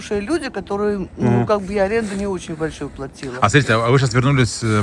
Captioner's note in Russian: откашливается